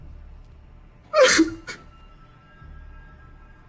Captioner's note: crying